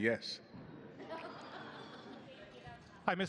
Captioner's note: laughter